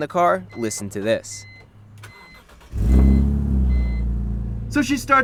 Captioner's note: engine starts